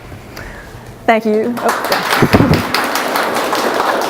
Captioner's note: applause